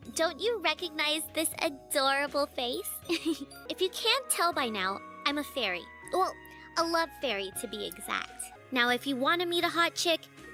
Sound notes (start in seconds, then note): 3.1 laugh